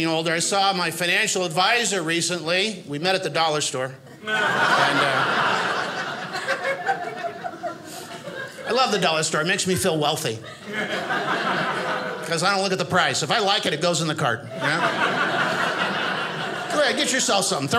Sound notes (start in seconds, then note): 4.1 audience laughing